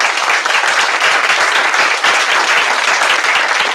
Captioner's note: applause